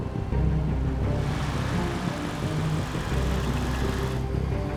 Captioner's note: suspenseful music; engines rev